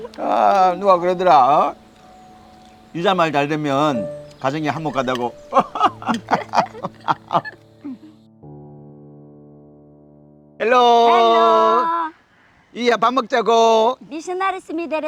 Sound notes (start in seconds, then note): 6.2 both laughing